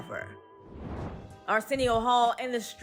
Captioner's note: air whooshes; upbeat music continues